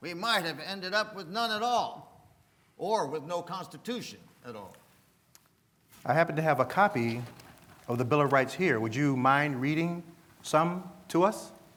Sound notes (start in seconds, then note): none